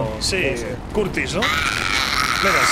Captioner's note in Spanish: Gritos